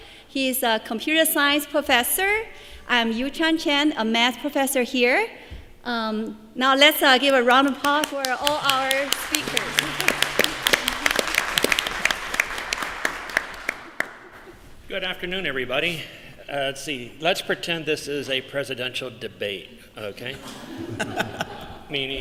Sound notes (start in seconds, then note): 10.4 applause; 20.4 laughter